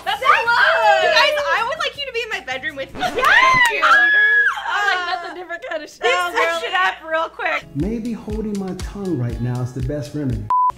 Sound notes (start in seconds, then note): 3.0 girls screaming; 10.5 screen beeps